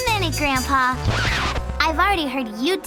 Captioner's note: record needle scratching